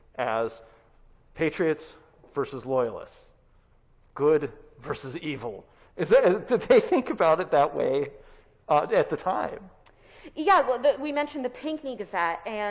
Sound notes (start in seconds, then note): 6.7 chuckles